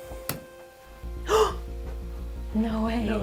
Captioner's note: gasps